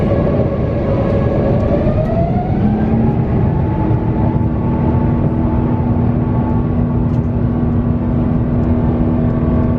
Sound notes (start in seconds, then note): 1.6 engine whine increasing